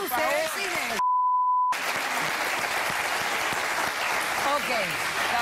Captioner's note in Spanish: Aplausos